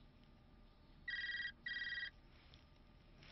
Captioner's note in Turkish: Telefon çalıyor